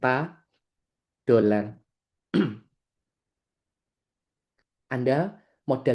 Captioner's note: berdehem